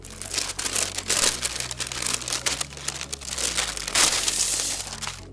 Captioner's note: soft music; package rustling